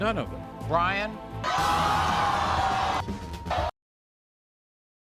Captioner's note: audience cheers